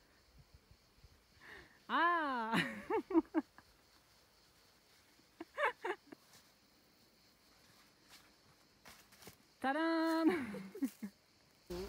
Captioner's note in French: rires